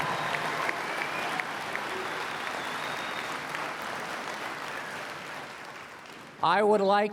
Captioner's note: cheers and Applause